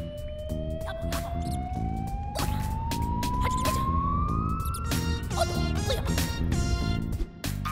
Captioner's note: EGadd Noises